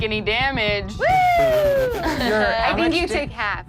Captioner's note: screams